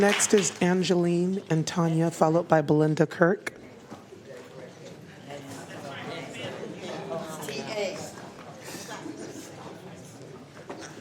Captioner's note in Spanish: aplausos